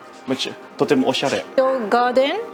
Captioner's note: speaking in foreign language